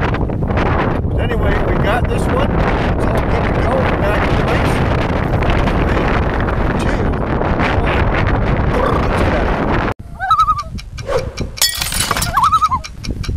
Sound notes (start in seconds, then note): 10.1 loon call; 12.4 loon call